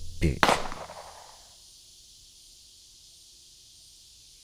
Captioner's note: gun firing